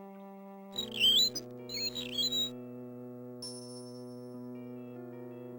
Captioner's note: unnerving violin music; contraption tweets